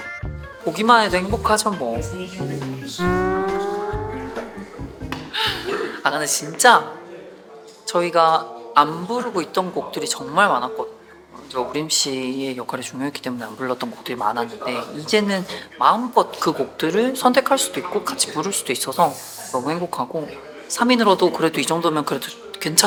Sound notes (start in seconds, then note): 5.2 hahahahaha; 5.3 muted laughter